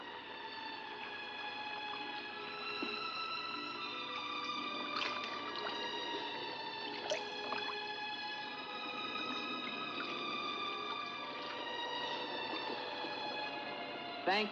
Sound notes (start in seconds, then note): 4.7 water splashing; 8.9 eerie music